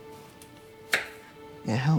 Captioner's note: knife chopping